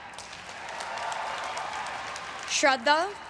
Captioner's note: everyone cheering and applauding